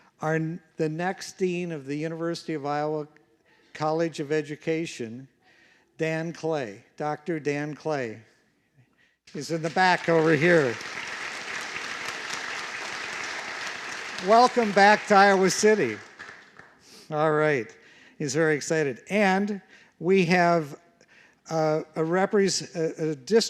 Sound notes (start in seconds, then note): 11.5 applause